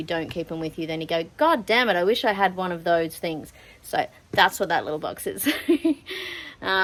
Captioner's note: laughs